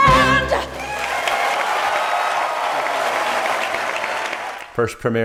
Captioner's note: audience cheers and applauds